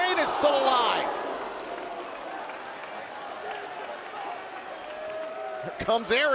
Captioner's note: crowd cheering